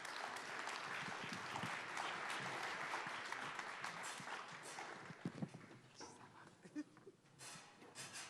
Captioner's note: applause